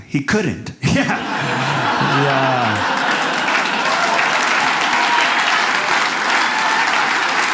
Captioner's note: audience laughs